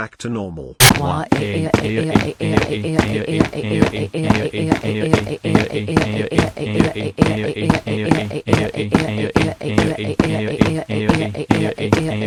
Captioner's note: crying